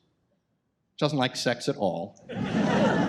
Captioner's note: audience laughs